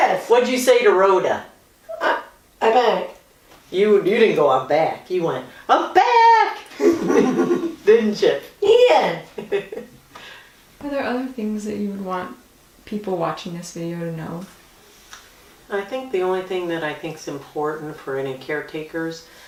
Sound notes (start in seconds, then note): 6.8 laughter